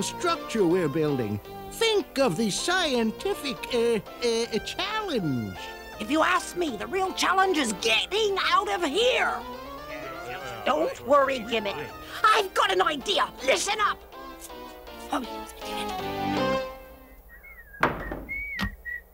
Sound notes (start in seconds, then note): 9.6 grumbling; 12.9 whispering; 16.9 whistling